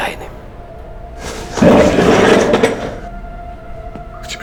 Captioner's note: chair screeches